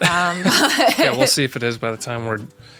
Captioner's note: laughing